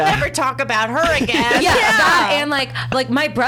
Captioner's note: laughs